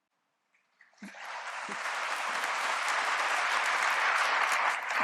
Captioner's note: applause